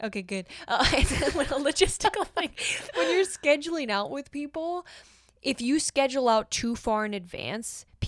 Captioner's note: both laugh